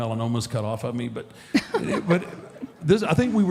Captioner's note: Michelle laughs